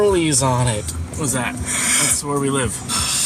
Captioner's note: yawns; makes expressive noise